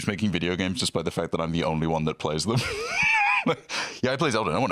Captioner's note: laughs